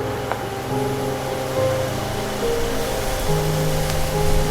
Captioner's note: fire flames crackling